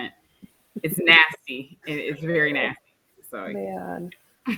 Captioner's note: chuckles